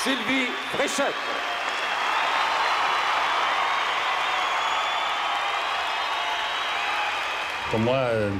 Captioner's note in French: acclamations